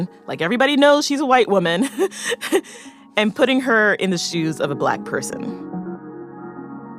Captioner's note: laughs